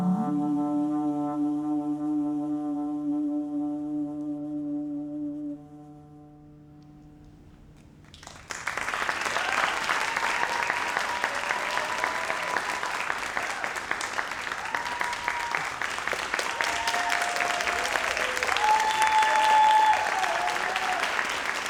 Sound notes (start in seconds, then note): 0.1 dramatic music continues; 8.6 audience applauds and cheers